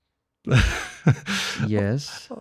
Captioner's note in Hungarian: nevetés